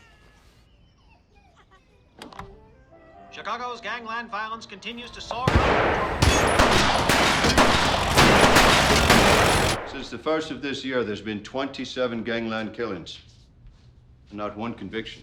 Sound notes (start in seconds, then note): 2.9 radio Announcer; 5.3 guns shooting